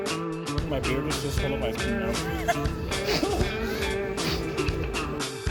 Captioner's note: laughing